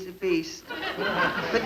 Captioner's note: audience laugh